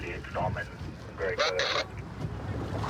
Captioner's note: radio communication